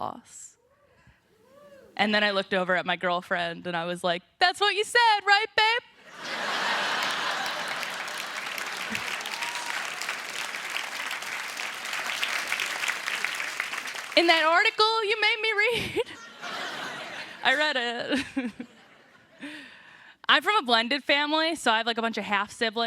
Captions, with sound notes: AND I LOOKED OVER AT MY GIRLFRIEND AND SAID, "THAT'S WHAT YOU SAID, RIGHT, BABE?" ( APPLAUSE ) "IN THAT ARTICLE YOU MADE ME READ." I READ IT. I'M FROM A BLENDED FAMILY, SO I HAVE, LIKE, A BUNCH OF